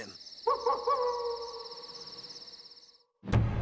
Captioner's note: wolf howls